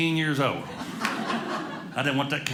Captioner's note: audience laughing